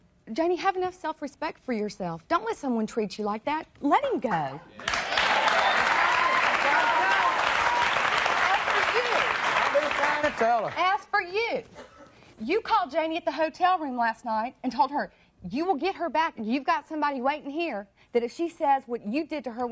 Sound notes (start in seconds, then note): 4.8 audience cheering